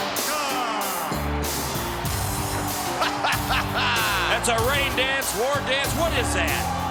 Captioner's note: laugh